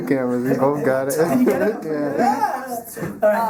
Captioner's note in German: Lachen